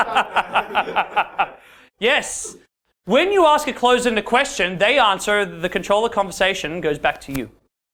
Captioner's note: laughter